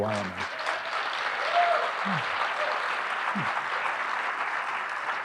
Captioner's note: audience applauding